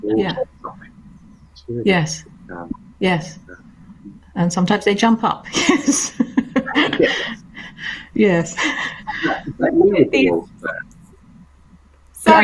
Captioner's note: laugh